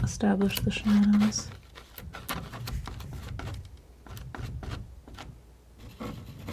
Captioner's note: scratching